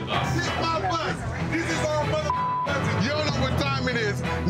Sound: beep

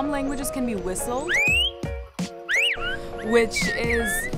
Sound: whistling

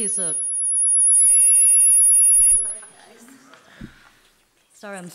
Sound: PA system ringing

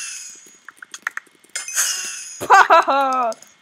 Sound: tinkle sound

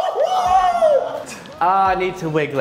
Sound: laughs

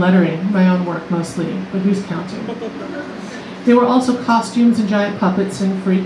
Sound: laughter

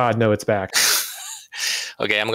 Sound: laughter

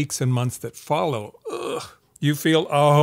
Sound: groans

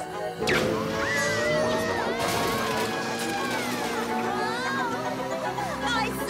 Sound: screaming

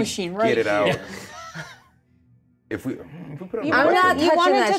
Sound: co-hosts laughing

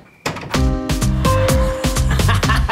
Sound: door closes

